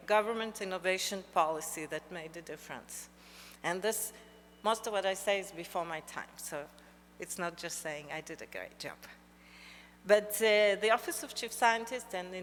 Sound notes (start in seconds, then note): none